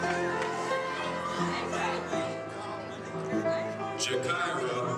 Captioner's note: audience cheering